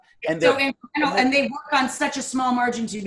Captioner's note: murmuring